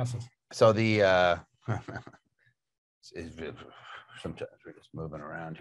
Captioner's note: laughs